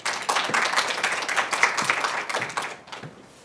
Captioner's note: applause